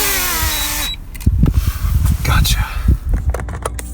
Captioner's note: drone beeps; plastic clatters; hand rasping